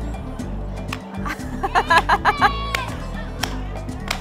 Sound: laughter

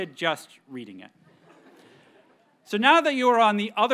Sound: audience members chuckle

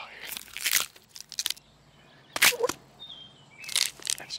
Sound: bones cracking

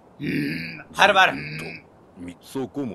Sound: grunted voice

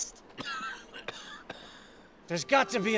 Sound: coughing

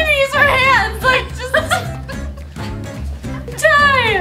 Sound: laughter

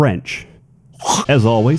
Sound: african mating call

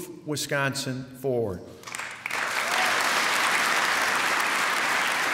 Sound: applause

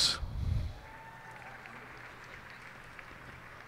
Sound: cheers and applause

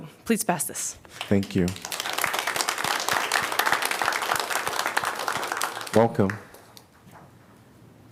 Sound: applause

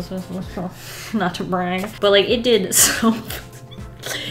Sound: laughs

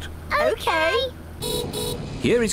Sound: horn beeps

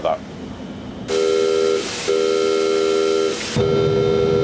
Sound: bell buzzing

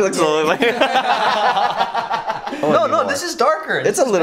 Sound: laughing

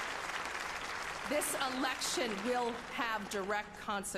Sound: applause

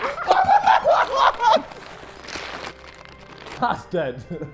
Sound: JJ laughing

